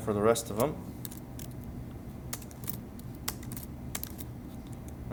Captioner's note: sounds of Typing